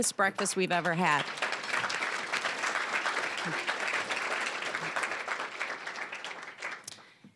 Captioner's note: applause